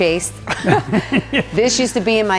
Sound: laughing

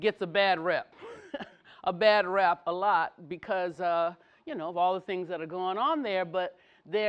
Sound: laugh

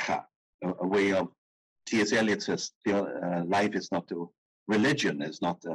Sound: speaking in foreign language

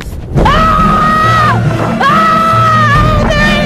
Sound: screaming

